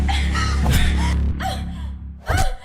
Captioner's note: punching whack